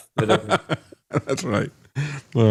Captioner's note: laughing